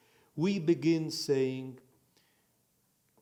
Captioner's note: in Hebrew